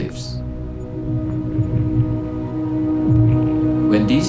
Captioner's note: ice rumbling